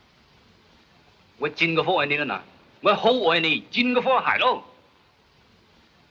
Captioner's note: speaking in Chinese